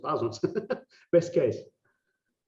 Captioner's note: laughing